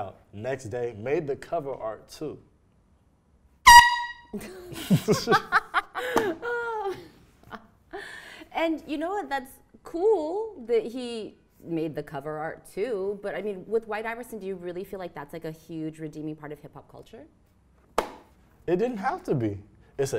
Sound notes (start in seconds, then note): 3.6 air horn; 4.4 laughs